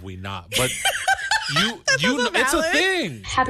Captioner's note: laughing